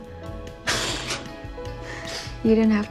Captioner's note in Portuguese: riem em lésbio